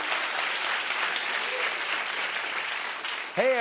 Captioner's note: applause